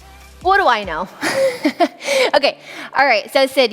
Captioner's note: chuckles